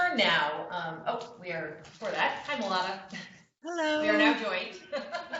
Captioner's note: laughter